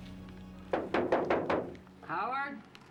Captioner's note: knocking at door